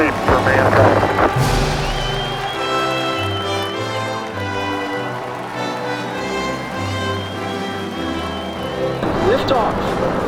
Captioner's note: 🎼 Patriotic Music🎵; 👏 Cheers😮